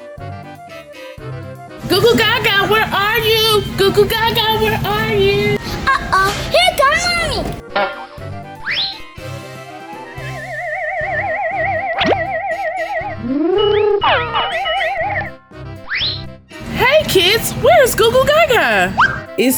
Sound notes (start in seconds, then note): 10.4 futuristic zapping